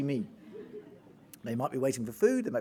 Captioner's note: audience laughing